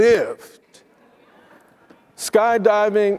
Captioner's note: attendees laughing